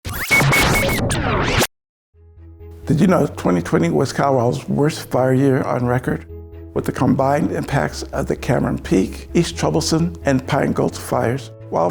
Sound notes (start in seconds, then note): 0.1 text whirring